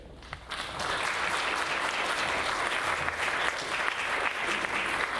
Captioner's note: audience applauding